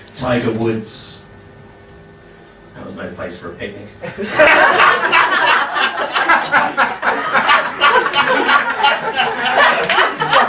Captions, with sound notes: Tiger Woods... that was no place for a picnic. (laughing)